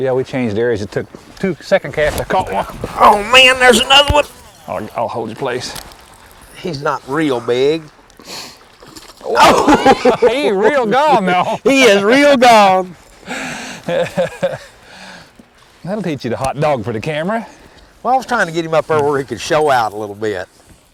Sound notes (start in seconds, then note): 8.7 splash; 9.4 laughter; 13.8 laughter